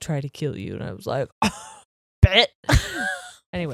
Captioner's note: scoffs; chuckles